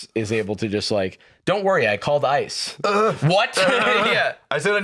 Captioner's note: groans fearfully